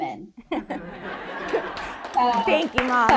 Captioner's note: audience applauding